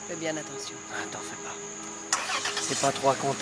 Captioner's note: engine starts